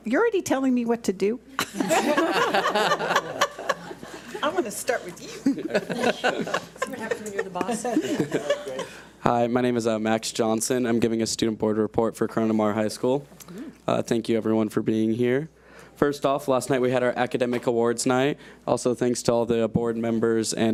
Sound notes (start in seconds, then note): 1.6 audience laughs; 6.6 laughs